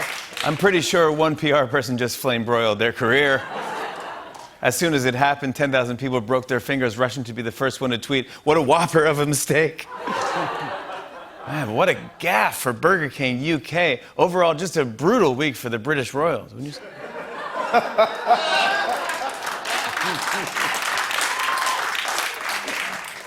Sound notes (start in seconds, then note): 3.3 laughter; 9.9 laughter; 16.8 laughter and applause